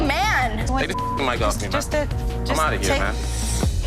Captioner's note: beep